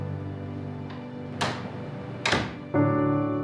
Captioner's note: door closes